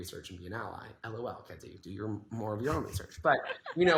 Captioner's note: laughs